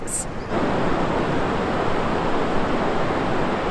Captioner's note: air whooshing